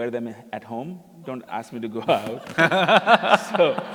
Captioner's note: laughter